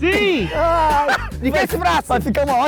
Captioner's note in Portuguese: risadas